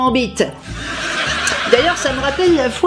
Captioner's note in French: Rires de sitcoms